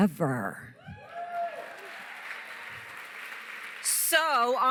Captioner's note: cheering, applause